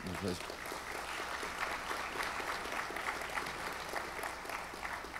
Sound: audience applauds

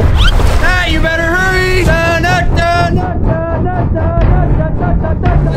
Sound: vocalizes; strained music

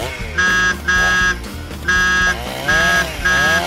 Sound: car honking

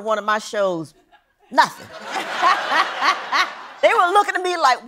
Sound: laughter

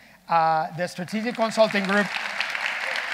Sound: audience applauding

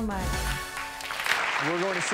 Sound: clapping

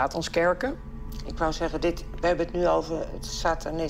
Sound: female interviewer speaking German

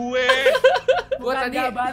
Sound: laugh

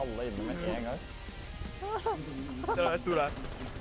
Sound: weird laughter

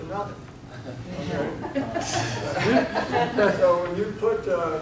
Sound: audience laughing

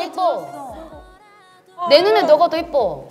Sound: silent

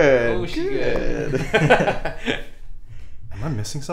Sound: laughing

